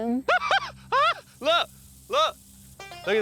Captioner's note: laughs